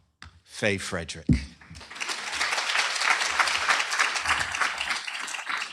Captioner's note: applause